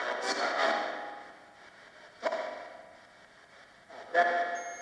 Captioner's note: ghostly voices warbling